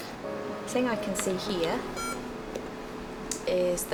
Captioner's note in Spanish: sonido de pitido